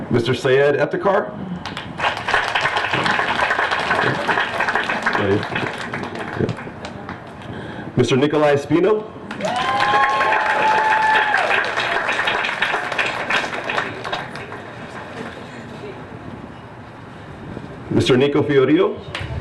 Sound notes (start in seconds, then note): 1.6 applause; 9.3 applause